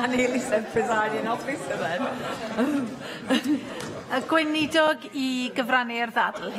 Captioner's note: laughter